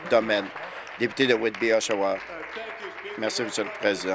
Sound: applause

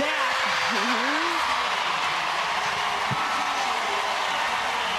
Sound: audience cheering

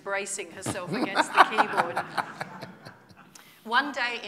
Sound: laughter

